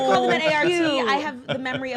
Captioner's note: laughs